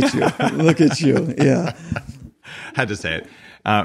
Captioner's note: laughing